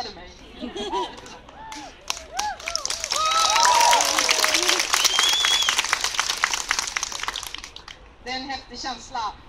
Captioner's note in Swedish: Skratt och applåder